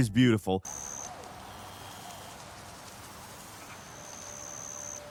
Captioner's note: insects buzzing